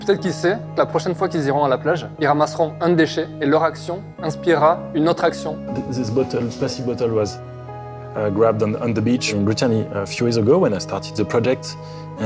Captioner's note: speaking French